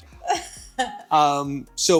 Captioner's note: laughing